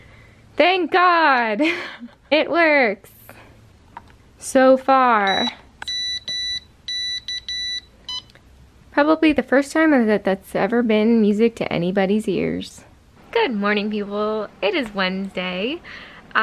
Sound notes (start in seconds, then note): 5.3 vaguely R2-D2-like beeping